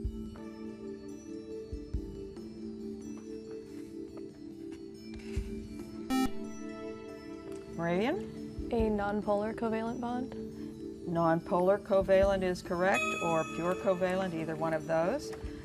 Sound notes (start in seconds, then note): 6.1 beep